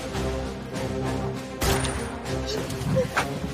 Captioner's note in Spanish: Disparo